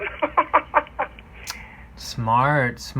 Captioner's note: laughing